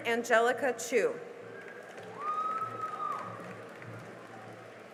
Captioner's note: cheering and applause